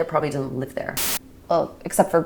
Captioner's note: camera buzzing